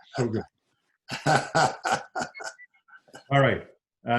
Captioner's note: laughs